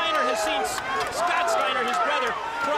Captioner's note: crowd chatter